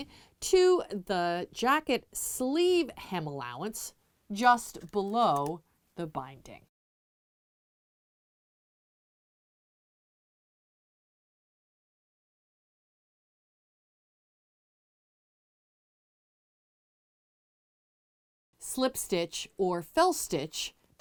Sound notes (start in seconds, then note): 6.7 no Sound Present